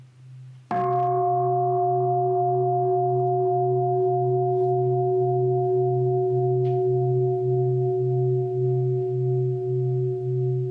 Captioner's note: bell